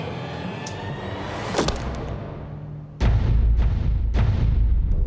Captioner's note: crunch